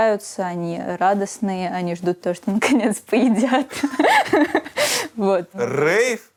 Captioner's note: both laugh